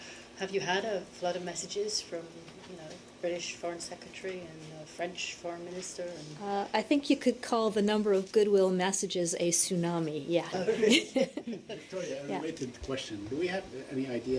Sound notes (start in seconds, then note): 10.6 laughter